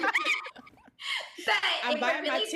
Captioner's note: all laughing